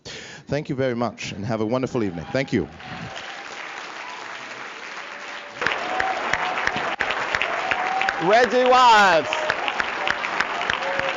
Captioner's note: applause